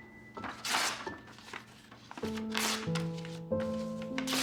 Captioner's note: pages ripping